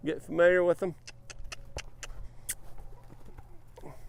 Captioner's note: clicks tongue